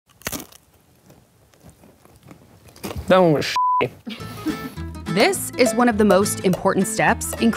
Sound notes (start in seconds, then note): 0.0 chip crunching; 3.5 beep